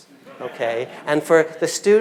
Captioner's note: audience laughing